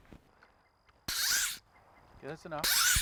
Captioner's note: fishing line whirring